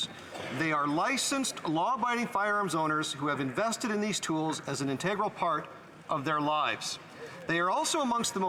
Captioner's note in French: voix de l'interprète